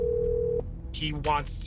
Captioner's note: phone ringing